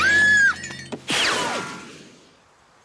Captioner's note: zoom!